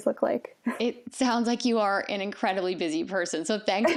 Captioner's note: chuckles